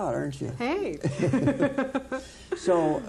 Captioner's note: laughing